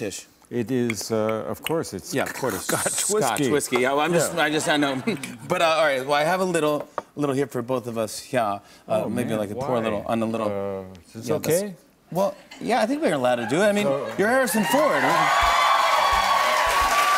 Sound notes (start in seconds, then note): 2.8 normal voice; 14.1 cheers and applause